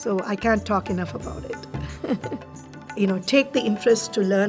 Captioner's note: chuckles